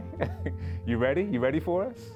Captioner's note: risada